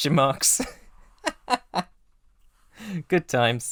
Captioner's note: laughing; laughs